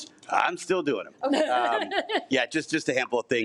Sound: laughs

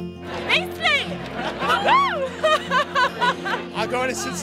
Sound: laughs

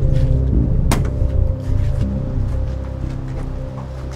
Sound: knocks on door

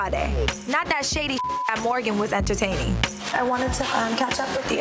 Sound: beep

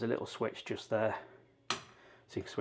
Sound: mirror light switch clicks

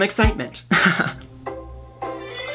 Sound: laughs

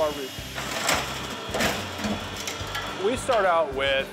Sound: machine clanking

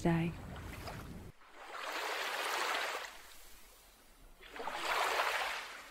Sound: water splashing on shore

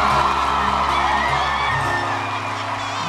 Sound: cheers and applause

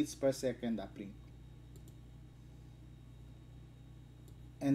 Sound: click

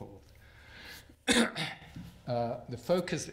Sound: clears throat

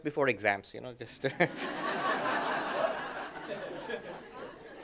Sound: laughter

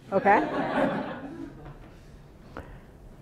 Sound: laughter

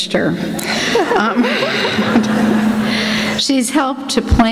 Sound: laughter

